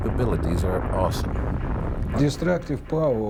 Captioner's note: bomb exploding